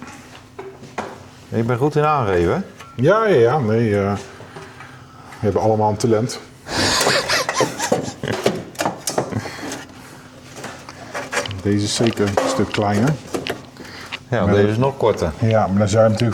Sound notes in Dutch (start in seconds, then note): 10.6 gelach